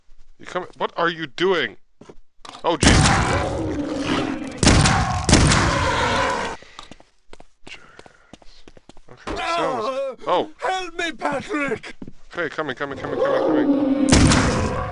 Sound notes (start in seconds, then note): 7.5 whispered; 10.3 yelling